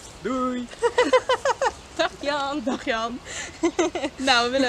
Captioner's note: laughter